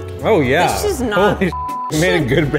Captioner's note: beep